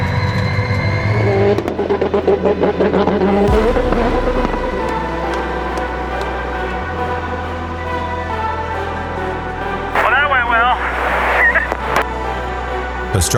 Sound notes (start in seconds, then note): 1.7 engine revving; 7.2 dramatic music